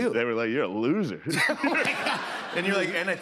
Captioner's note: laughter